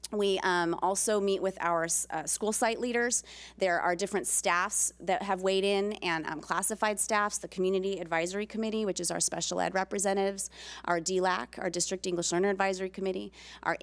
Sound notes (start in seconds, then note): none